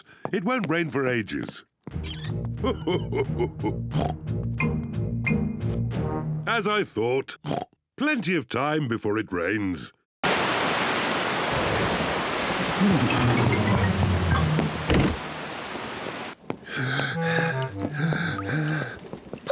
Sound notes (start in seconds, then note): 2.6 laughs; 3.9 oinks; 7.4 oinks; 12.7 grunts; 16.6 breathes heavily